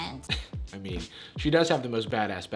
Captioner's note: chuckles